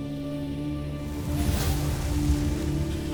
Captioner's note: ethereal music playing; sparkling whoosh, infernal whoosh-crackle